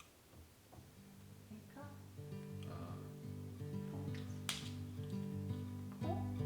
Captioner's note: snap!